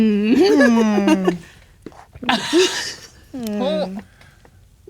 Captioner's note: laughing